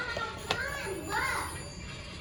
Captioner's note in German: Telefon klingelt und Mechanik